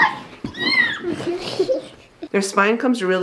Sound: squealing and laughing

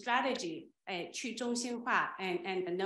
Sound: speaking Chinese

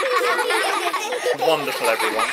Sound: laughing

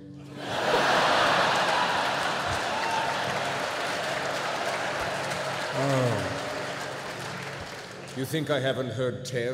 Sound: laughter

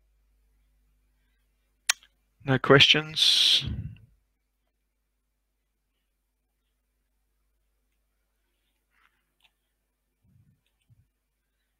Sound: silence; silence

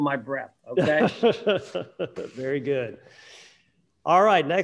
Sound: laughing

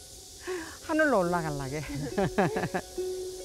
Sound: laugh

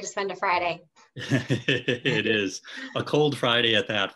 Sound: laughing

